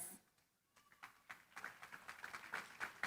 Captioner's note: applause